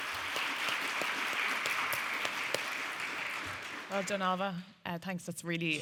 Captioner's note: audience applauding